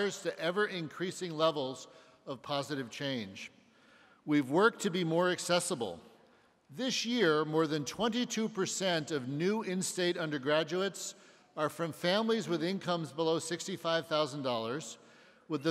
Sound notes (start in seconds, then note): none